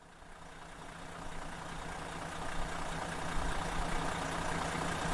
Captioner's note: engine rumbling